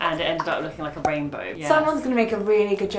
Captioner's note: popping sound